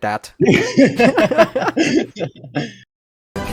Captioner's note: laughs